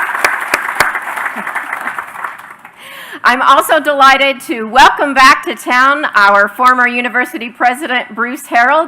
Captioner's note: applause